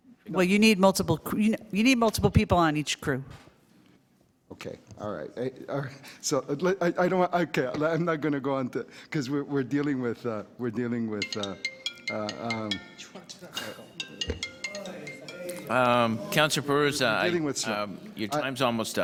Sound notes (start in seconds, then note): 10.4 phone ringing